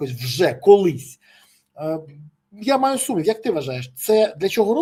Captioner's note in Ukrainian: сопіння